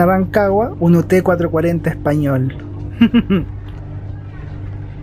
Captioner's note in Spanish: risas